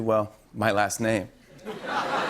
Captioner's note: laughter